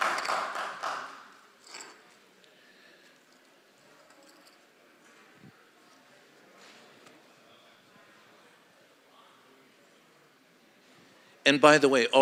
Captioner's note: applause